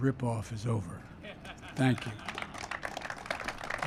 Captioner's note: applause